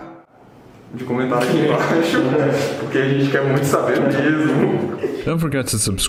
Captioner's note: laughs